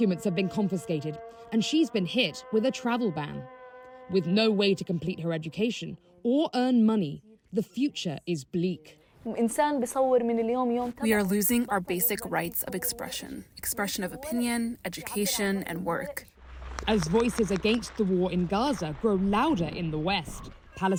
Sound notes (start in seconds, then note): 11.4 through translator